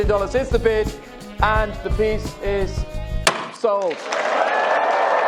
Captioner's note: gavel cracks; crowd applauds